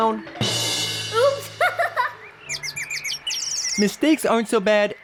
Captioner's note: laughs